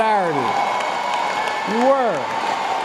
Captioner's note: applause